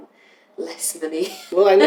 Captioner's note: laughter